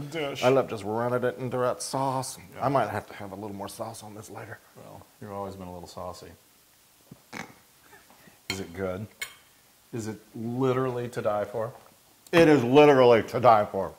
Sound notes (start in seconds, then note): 6.8 laugh